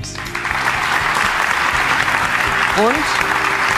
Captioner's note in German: Applaus